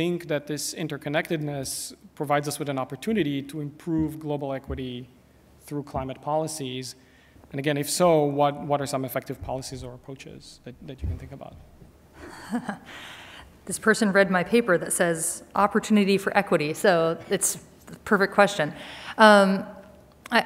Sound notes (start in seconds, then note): 12.2 chuckles